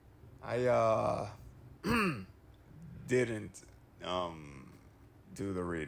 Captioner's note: clears throat